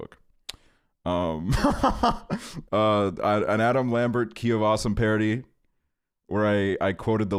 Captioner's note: laughs